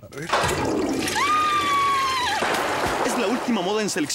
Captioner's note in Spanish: Suena como cadena del WC